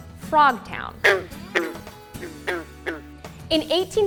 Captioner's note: frogs croaking